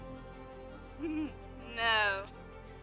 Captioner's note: laughs